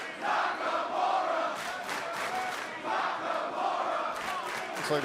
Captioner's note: crowd cheering